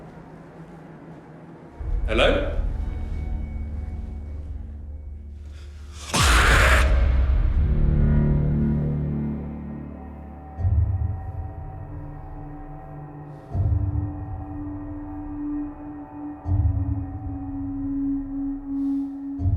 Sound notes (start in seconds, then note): 6.0 man screeches; 6.4 dramatic music; 8.0 ominous music